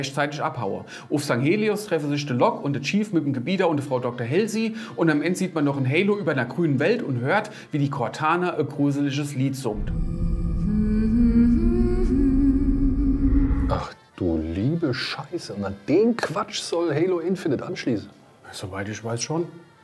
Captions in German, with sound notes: Einzig die Infinity konnte noch rechtzeitig abhauen. Auf Sanghelios treffen sich Locke und der Chief mit dem Gebieter und der Frau Dr. Halsey, und am Ende hört man, wie Cortana ein gruseliges Lied summt. (Gruseliges Summen) Ach du liebe Scheiße, und an den Quatsch soll "Halo Infinite" anschließen? Soweit ich weiß schon.